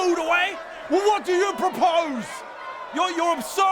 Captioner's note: angry mob